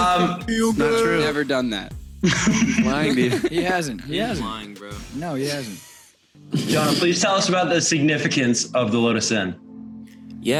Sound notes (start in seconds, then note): 2.2 laughter